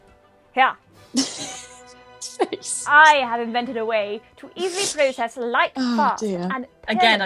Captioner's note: Sketch audio plays; laughing